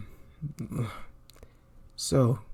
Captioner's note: pain noises